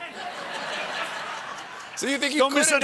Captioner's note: laughter